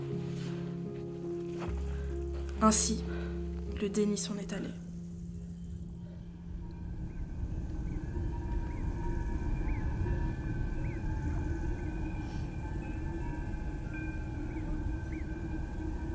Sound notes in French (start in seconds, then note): 7.5 Sons de la nature